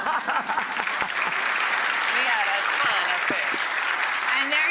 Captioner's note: audience applauds